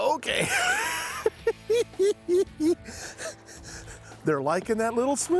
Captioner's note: laughing